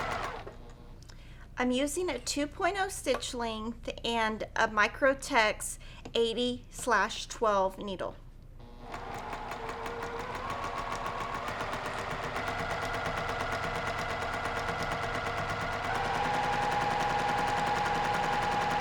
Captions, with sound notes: I'm using a 2.0 stitch length and a Microtex 80/12 needle. (sewing machine humming)